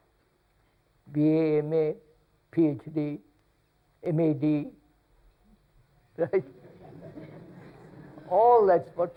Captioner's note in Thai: หัวเราะ